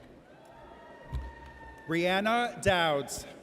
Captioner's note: audience cheers